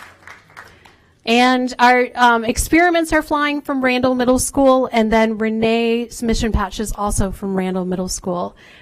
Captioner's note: applause